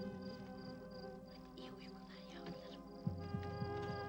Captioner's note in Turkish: fısıldayarak